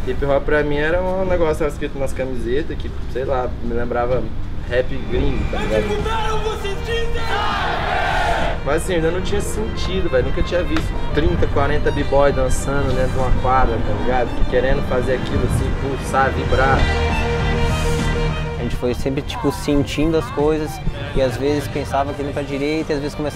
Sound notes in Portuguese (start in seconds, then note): 6.8 Gritos; 17.2 Música instrumental